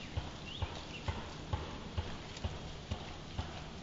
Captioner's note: pounding